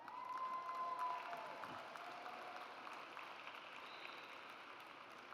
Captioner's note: audience cheers